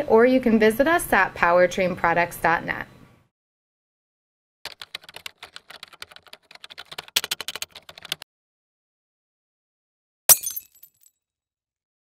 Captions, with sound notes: or you can visit us at powertrainproducts.net. (keyboard clacking) (glass breaking)